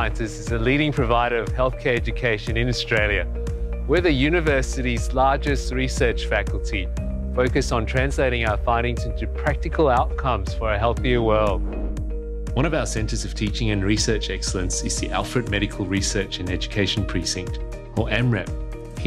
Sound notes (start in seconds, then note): 11.5 air whooshing